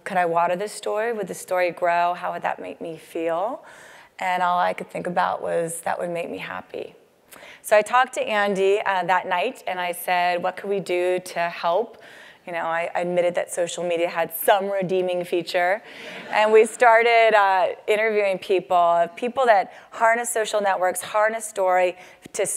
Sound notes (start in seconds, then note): 16.1 laugh